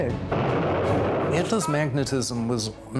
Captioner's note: bomb exploding